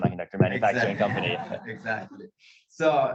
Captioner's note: audience laughs